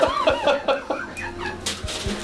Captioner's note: laughing